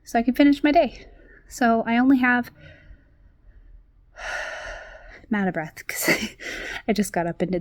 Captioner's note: exhales deeply